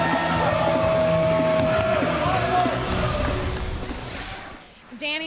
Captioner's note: cheers and applause